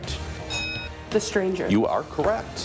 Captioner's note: bell rings